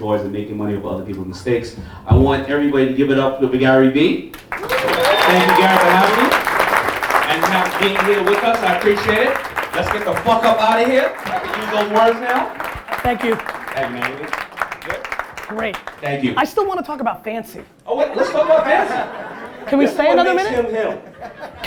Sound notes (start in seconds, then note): 4.1 audience clapping and cheering